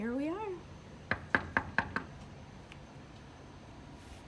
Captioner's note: knocking